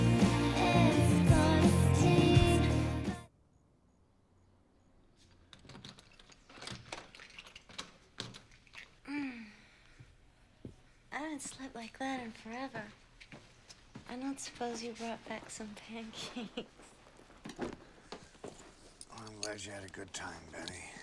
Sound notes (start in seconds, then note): 5.6 door clicking